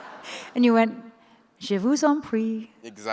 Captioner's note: French language